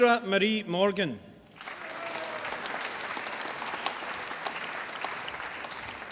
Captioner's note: applause